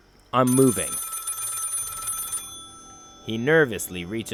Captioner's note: phone continues to ring